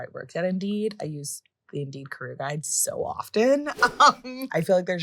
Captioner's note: laughing